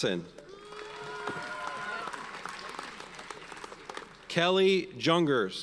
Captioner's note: audience cheers and applauds